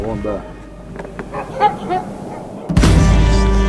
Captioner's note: dog barking